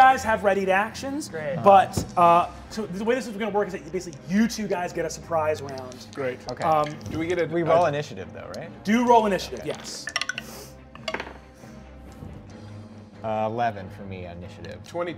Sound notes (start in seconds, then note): 12.1 dice clicks